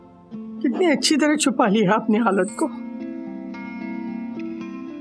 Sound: none

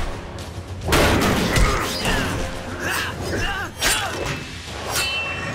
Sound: grunting

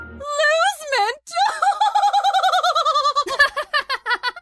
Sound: haughty / crazy laugh

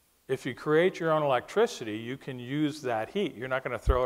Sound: none

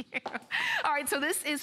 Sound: laughter

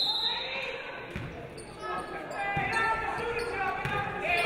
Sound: referee blows whistle

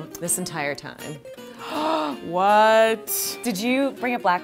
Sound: gasp

